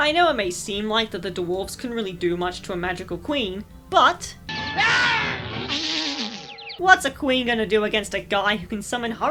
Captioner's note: “aaa-choooo!”